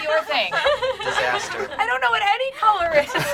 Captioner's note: group laughing